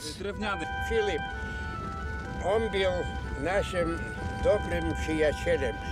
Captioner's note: speaking Polish